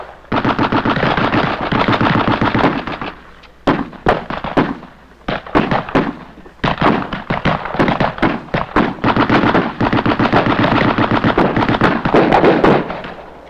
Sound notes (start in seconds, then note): 2.7 bullet whizzes; 3.5 guns fire